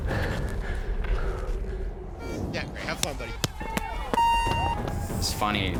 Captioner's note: beeping